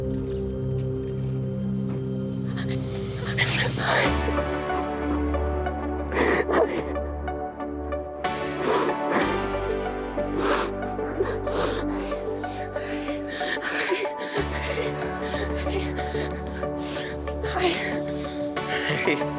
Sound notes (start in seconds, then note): 2.4 shaky breathing; 4.8 uplifting pop music; 6.0 sobbing